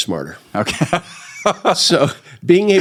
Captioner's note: laughs